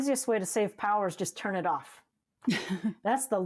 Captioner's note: laughs